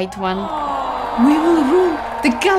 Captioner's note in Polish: awwwww